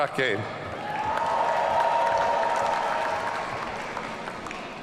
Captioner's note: audience cheering